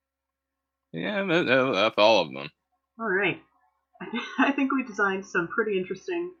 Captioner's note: laughter